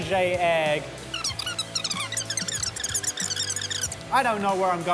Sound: squeaking

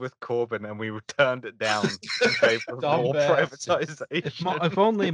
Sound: laughter; laughter

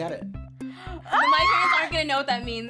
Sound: squeals

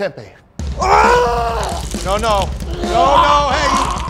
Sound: vomiting

